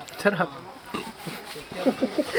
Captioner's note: giggles